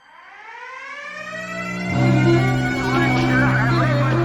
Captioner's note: sirene tocando; voz abafada falando no sistema de PA